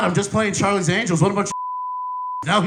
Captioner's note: beep